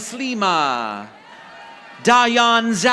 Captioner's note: audience applauding